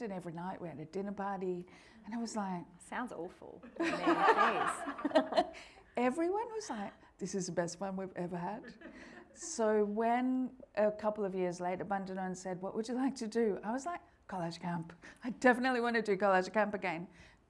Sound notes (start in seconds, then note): 3.8 everyone laughing; 8.7 audience laughing